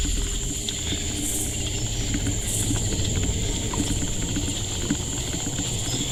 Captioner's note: eerie music; crickets chirping